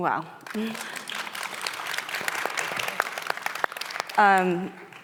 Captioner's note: audience applauding